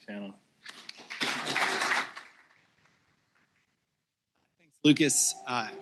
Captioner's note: applause